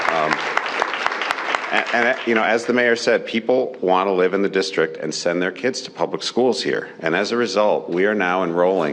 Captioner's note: cheers and applause